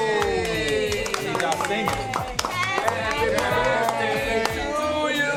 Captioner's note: clapping